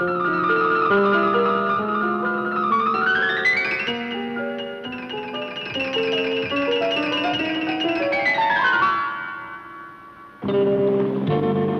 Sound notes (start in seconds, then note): none